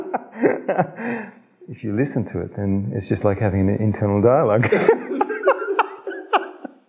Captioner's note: laugh